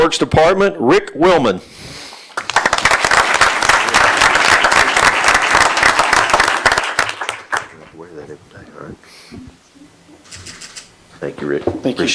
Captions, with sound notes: >> Ten yearses from Public Works Department, Rick Willmon. (Applause)